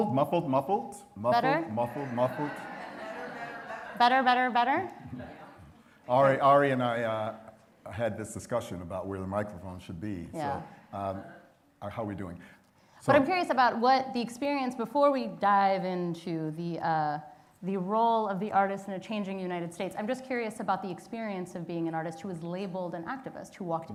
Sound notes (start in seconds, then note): 1.8 laughter